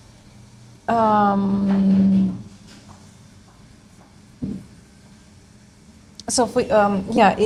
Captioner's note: silence